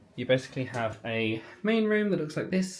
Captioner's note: none